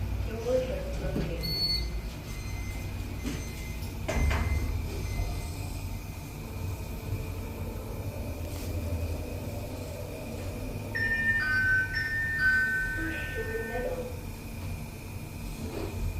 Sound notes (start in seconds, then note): 1.5 door buzzer; 10.9 ding-dong, ding-dong; 11.0 chime